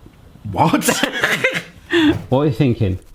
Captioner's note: laughs